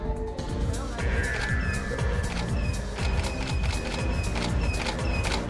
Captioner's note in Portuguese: câmeras estalando